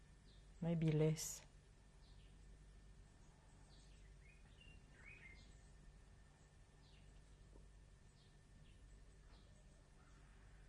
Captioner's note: pauses for 30 seconds